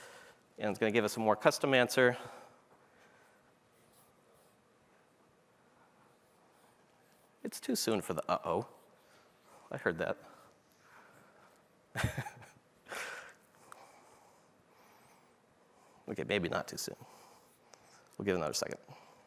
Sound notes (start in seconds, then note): 11.9 laughter